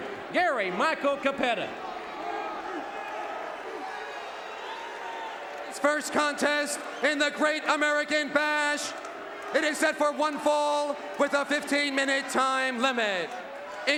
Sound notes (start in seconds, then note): 2.6 audience cheering